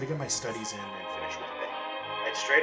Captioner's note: distorted audio